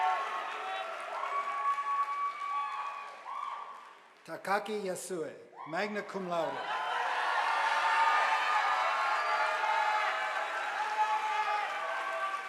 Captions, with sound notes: Takaki Yasuwe magna cum laude, (audience applauding)